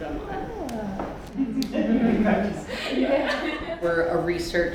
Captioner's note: laughter